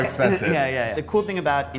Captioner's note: laughter